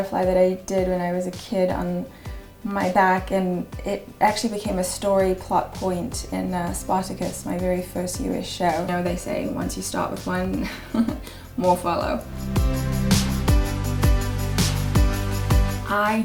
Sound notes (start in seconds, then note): 10.6 laughs; 13.1 upbeat music